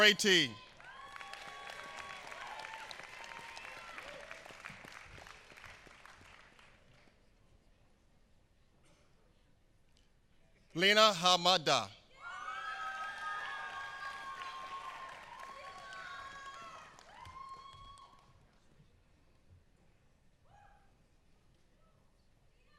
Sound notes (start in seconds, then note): 0.0 applause; 12.6 applause